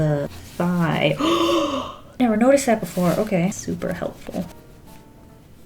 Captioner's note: gasps